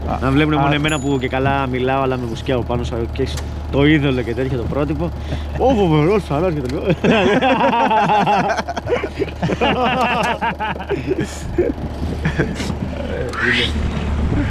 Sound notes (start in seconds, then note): 6.7 laughs